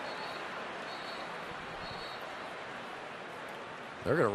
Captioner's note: whistle